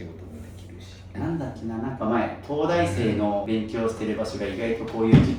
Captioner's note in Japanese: 鼻息